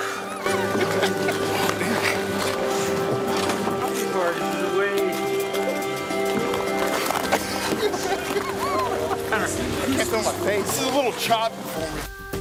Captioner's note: ice scraping; laughter; wheezing laugh